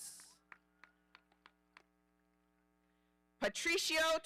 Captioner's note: audience applauding